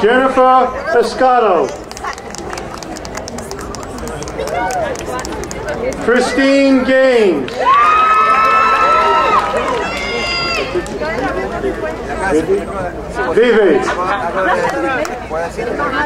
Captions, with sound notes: Jennifer Roscaro. (crowd applauding) Christine Gaines. (crowd cheering)